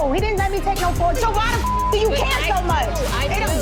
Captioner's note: beep